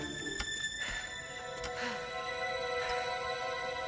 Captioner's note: panting